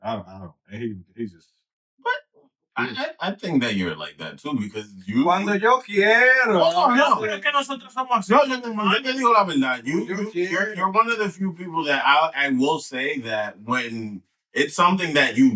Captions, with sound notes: I don't know. And he just- What? I think that you're like that too, because you- (Speaking In Foreign Language) I think you're not. You're one of the few people that I will say that when it's something that you